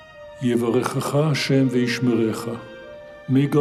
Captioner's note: man speaking in foreign language